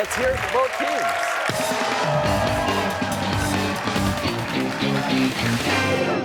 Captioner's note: cheers and applause